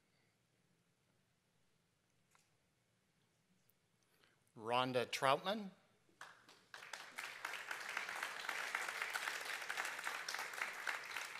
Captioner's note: applause